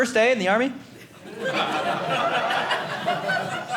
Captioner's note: audience laughing